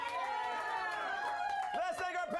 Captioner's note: audience cheering